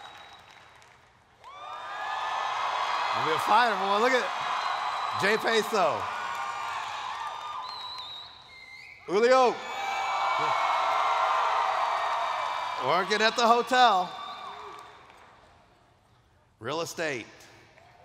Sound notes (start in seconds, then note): 9.1 cheers